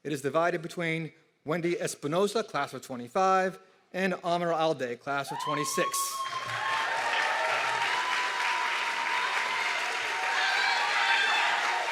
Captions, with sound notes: It is divided between Wendy Espinoza, class of '25 and Oner Alde, class of '26. (audience clapping and cheering)